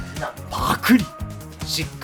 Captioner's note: gulp